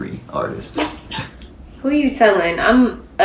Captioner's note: both giggle